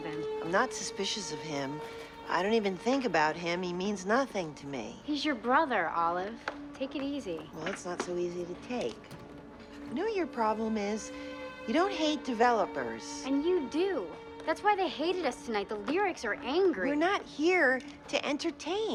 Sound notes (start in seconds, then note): none